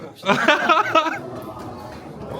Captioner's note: laughs